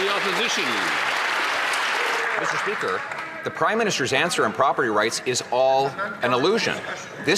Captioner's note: some Applause